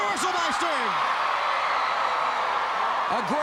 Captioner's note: Ric yelling; crowd cheering